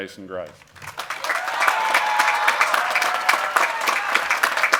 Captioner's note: cheering and applause